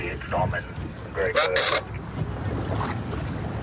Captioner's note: radio communication